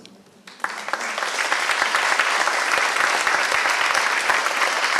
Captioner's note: applause